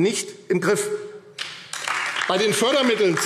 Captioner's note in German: Beifall AfD